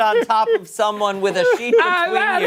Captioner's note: laughter